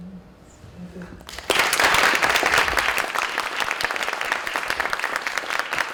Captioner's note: applause